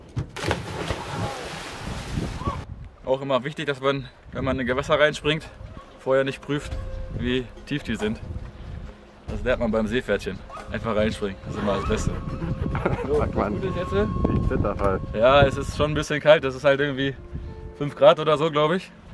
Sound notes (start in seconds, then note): 11.5 laughs